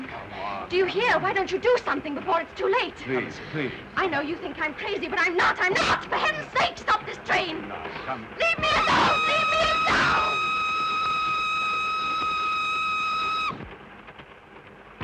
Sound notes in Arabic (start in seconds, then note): 8.8 صافرة القطار